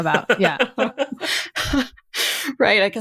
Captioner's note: bowen laughing